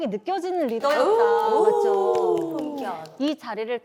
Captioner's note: 박수